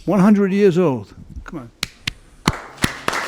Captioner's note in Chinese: 鼓掌